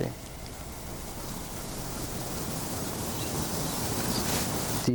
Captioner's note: birds singing